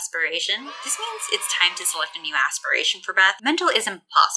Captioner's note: children cheering sfx